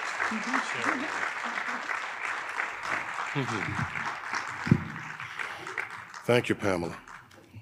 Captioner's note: audience applauding